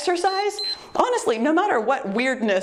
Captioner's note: timer beeps